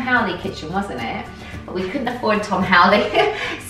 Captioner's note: laughs